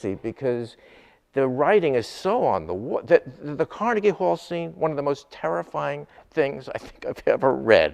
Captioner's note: none